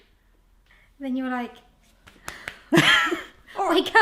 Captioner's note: slapping